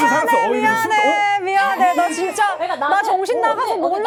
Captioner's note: crying profusely